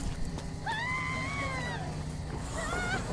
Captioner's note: screams